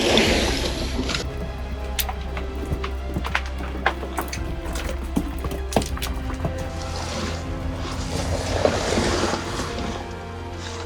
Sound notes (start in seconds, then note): 1.7 rocks clattering; 8.0 pants scraping